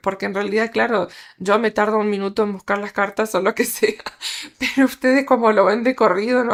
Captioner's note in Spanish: risas